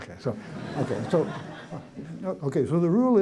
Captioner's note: laughter